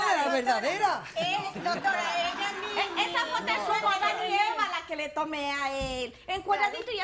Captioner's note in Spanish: Risas